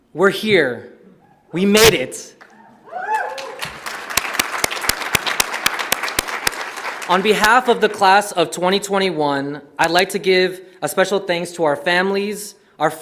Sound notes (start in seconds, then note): 2.5 audience cheers; 3.0 audience applauds